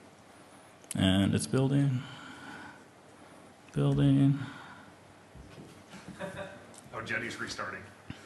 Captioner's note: laughter